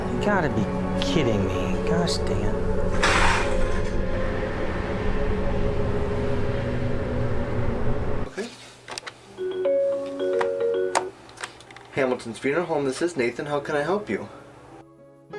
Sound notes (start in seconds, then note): 9.3 phone chimes